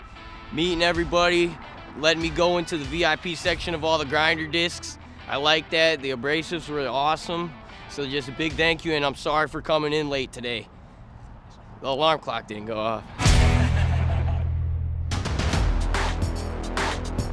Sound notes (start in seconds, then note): 13.3 laughs; 15.0 energetic music